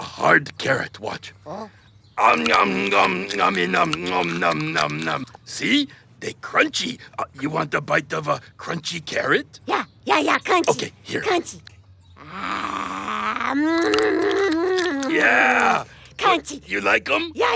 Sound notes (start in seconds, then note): 2.3 crunching